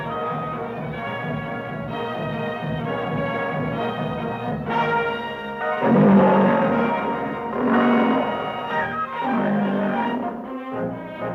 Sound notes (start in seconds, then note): 5.8 cats roaring